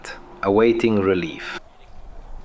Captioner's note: radio